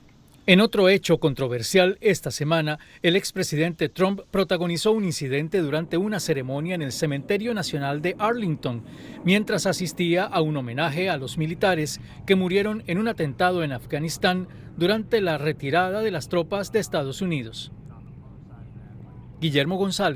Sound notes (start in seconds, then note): 3.9 habla en ingés